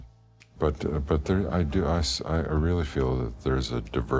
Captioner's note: stammering